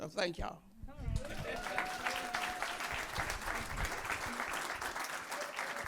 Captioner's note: audience applauding